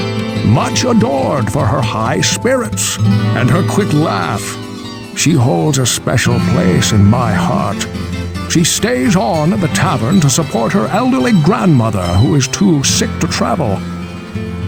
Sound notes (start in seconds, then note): none